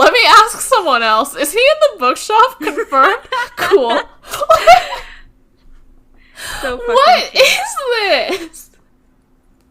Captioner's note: laughing